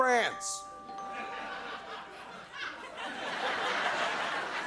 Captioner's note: laughter